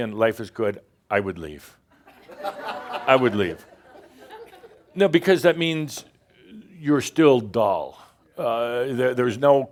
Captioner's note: laughter